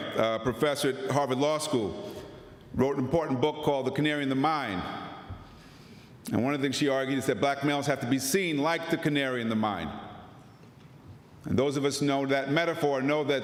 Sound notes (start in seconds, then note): none